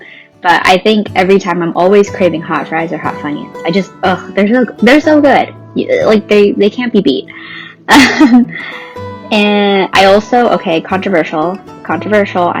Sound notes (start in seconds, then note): 7.9 laughs